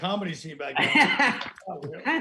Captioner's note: laughing